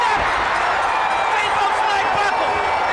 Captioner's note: bell ringing